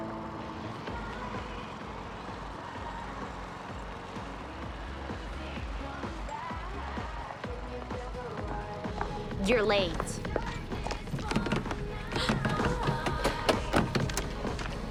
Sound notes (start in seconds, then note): 0.0 upbeat pop music; 10.6 rattles handle